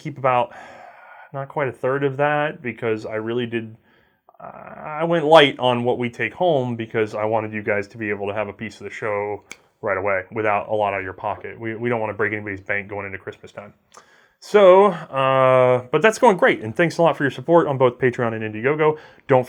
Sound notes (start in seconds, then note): 9.4 snap